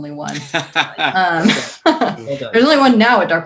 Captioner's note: laughs